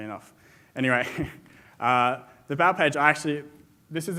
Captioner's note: laughs